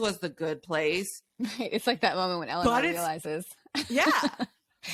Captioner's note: laughs